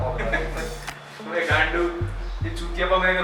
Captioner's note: chuckling